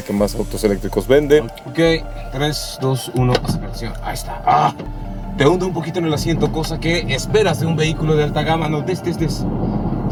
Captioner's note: grunt